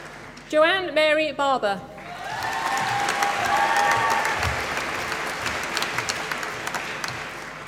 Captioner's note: applause